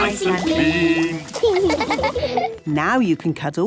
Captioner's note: laughing